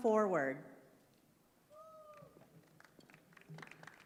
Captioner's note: applause